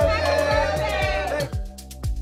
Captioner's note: overlapping shouts